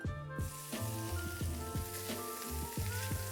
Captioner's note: sizzling sound